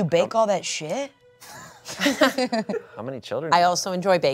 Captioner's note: everyone laughs